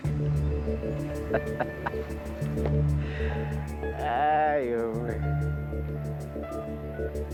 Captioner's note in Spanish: Risas